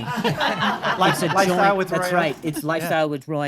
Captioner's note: audience laughing